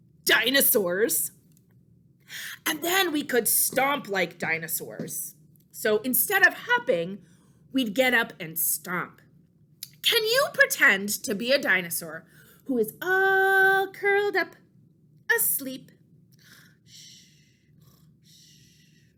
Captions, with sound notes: dinosaurs. And then we could stomp like dinosaurs. So instead of hopping we'd get up and stomp. Can you pretend to be a dinosaur who is all curled up asleep? (snores)